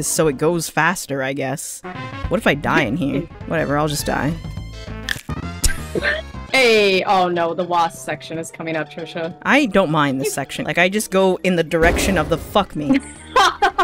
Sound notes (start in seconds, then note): 5.0 bones crunch; 5.6 laughing